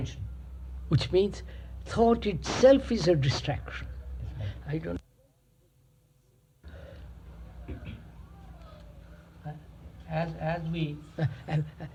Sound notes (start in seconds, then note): 6.5 break in audio